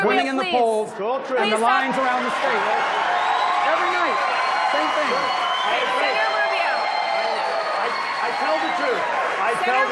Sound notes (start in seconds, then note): 7.5 applause